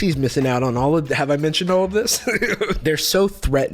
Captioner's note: laughs